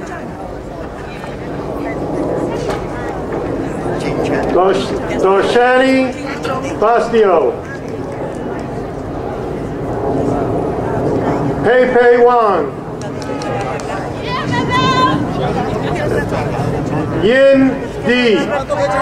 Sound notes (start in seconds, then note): 12.9 crowd applauding